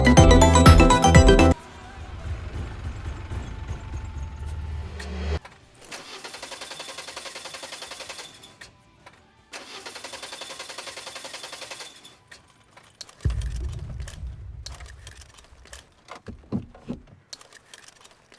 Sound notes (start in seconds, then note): 2.8 car engine rumbling; 5.8 engine struggling